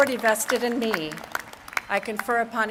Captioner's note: applause